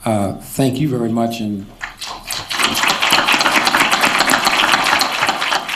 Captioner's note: applause